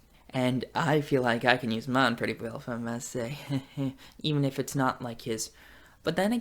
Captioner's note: heheh